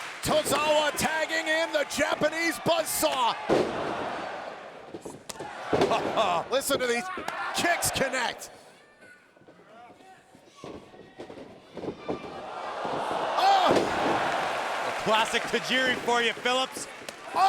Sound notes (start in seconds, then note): 4.9 kicks thudding